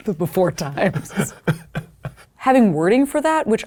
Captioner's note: people laughing